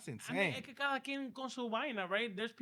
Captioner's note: speaking In Foreign Language